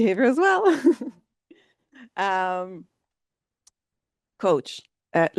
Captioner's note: laughing